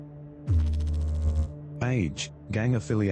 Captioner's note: electrical noise